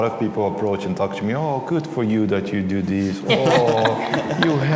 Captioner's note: laughter